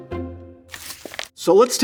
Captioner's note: paper rustling